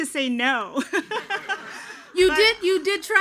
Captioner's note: everyone laughing